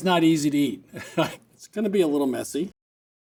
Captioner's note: chuckles